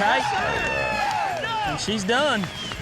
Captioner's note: all cheering